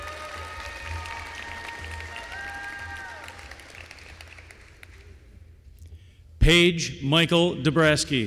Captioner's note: applause